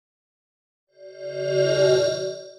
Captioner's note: swoosh